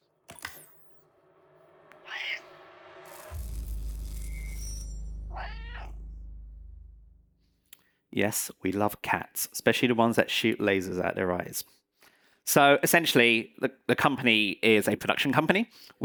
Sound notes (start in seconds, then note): 2.0 meows; 5.3 meows